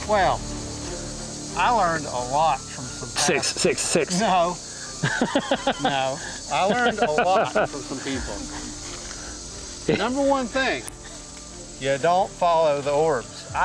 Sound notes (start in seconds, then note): 4.8 laughs